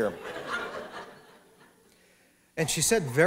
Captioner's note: laughter